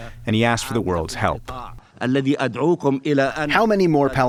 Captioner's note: through translator